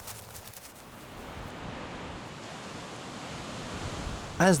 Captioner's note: wind blowing